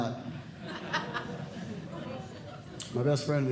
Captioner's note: audience Laughing